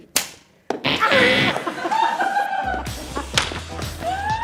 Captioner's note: laughing